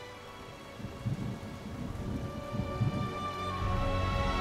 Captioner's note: dramatic music; thunder rumbling